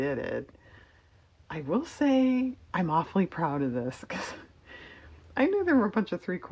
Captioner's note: laughs